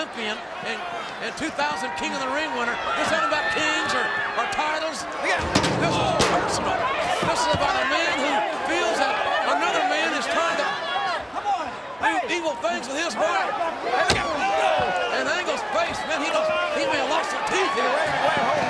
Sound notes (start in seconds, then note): 5.3 Angle thuds